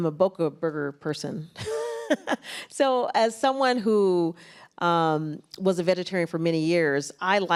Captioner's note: laughs